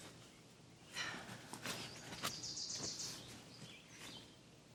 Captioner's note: Donna sighs